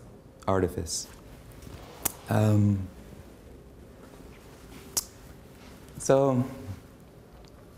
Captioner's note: pause